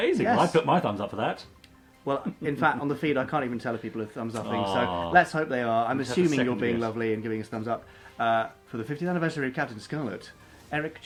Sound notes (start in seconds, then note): 2.1 chuckles